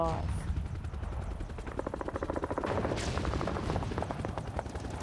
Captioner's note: sounds of battle